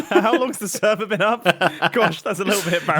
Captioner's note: laughs